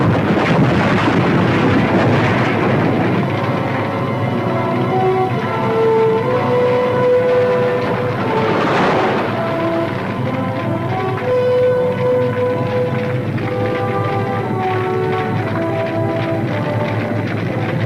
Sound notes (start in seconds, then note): 0.1 debris clattering; 3.9 dramatic music; 10.8 fire crackling